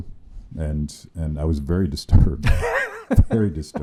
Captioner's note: laughing